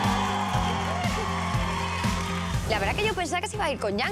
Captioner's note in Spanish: aclamaciones; aplausos